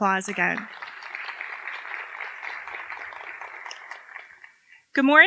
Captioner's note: applause